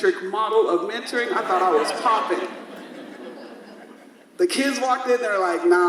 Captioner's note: audience laughs